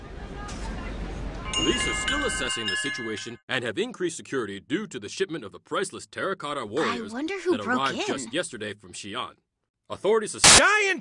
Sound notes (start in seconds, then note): 1.4 door chimes